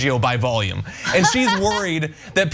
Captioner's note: laugh